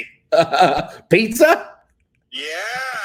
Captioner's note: laughs